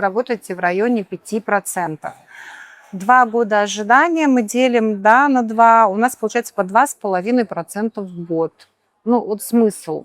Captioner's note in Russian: тяжело вздыхает